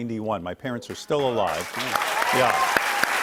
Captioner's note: cheers and applause